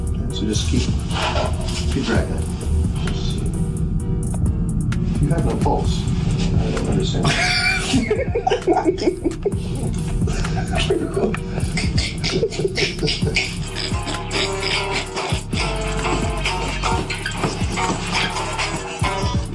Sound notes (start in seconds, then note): 7.7 laughing; 11.9 cackling; 11.9 laughing; 13.6 cackling; 13.6 guitar playing